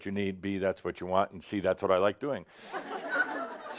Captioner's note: laughter